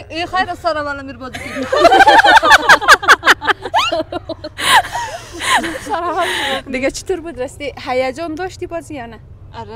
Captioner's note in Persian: خنده